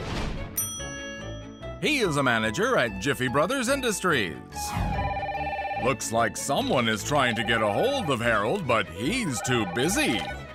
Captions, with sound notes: [bell dings] He is a manager at Jiffy Brothers Industries. [phone rings] Looks like someone is trying to get a hold of Harold, but he’s too busy.